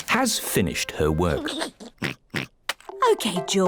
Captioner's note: giggles and oinks